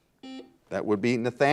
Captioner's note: buzzer